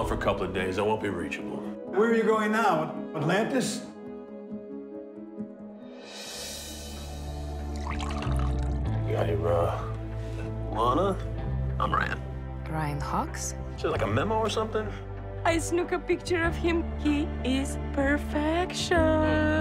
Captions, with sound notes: Don't call for a couple of days. I won't be reachable. Where are you going now, Atlantis? *Water filling cup* Lana, I'm Ryan. Ryan Hawks. Don't you have like a memo or something? I snuck a picture of him. He. Is. Perfectioooon!